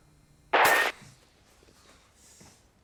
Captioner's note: gunshot; screen cracks